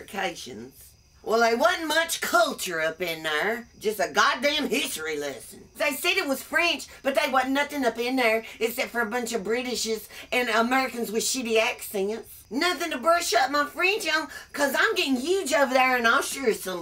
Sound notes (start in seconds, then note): none